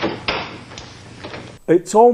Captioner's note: door clamoring